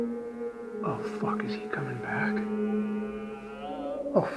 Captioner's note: animal groaning